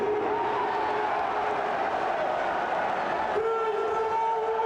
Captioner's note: crowd cheers